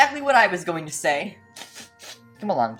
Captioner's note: sniffs